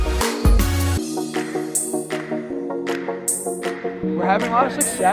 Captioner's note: rhythmic clapping